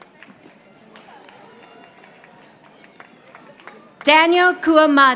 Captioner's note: audience applauding